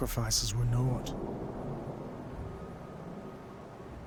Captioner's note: storm builds